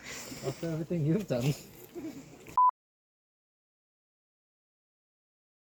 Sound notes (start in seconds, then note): 1.8 giggles